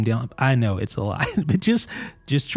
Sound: laughs

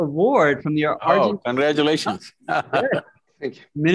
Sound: laughs

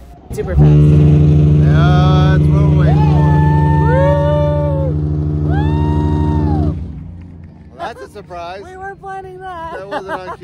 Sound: horn blows

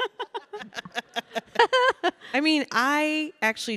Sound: audience chuckling; Michelle and Samantha laughing

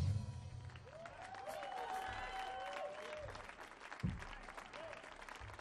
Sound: audience cheering; audience clapping

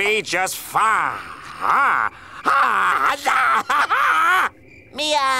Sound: shrieking

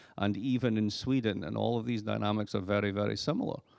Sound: none

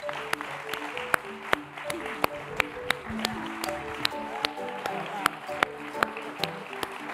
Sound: applause; upbeat music

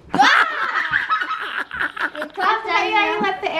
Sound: laughter; screams

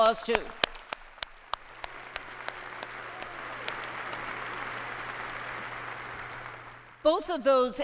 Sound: applause

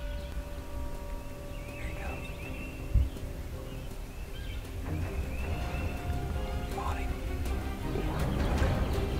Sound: whispering

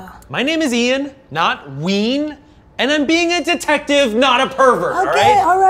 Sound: none

